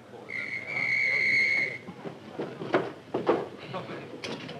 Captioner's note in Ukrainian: свисток